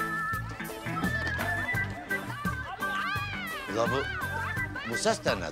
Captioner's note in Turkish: Bağırışma sesleri